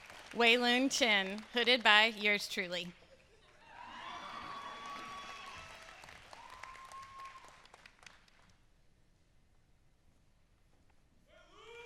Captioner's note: applause